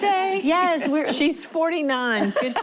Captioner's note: laughing